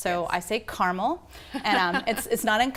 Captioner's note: laughter